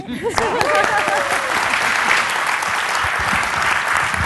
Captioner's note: applause